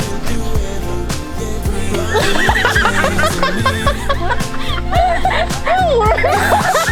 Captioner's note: laughing